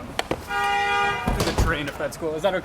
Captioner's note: car honking